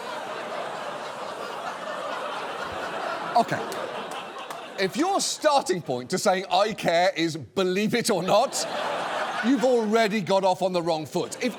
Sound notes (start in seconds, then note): 0.0 audience laughs; 8.0 audience laughs